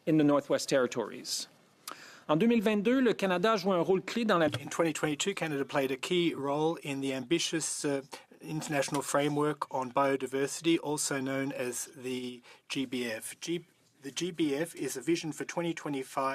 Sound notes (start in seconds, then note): 6.9 speaking French